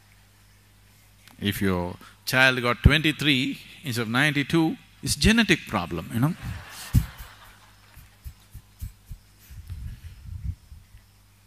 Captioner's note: laughter; 笑聲